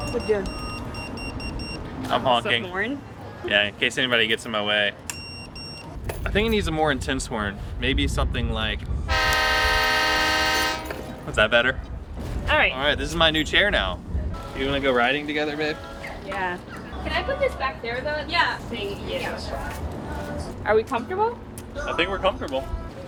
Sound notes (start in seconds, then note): 5.1 chair beeping; 9.0 train horn blaring